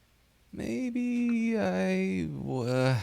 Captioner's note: groans